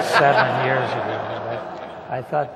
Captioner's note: laughter